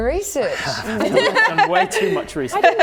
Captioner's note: laughing